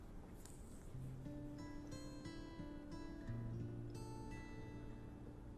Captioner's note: paper towel rustles on canvas